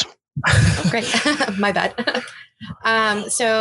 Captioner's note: all chuckling